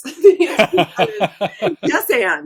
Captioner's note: both laughing; laughs